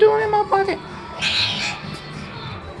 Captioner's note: screeching